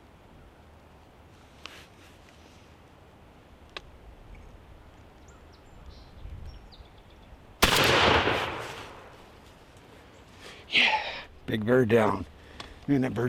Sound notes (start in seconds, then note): 7.6 rifle shot echoes